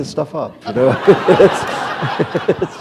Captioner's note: laughter